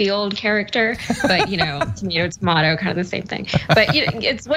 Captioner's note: laugh